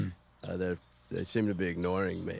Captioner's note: McGuirk clears throat